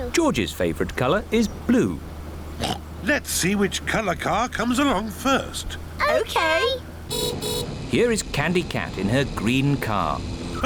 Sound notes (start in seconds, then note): 2.6 oinks; 7.0 horn beeps